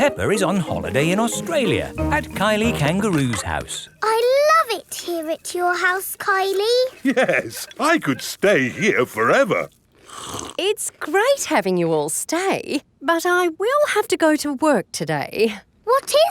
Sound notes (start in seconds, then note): 9.9 slurps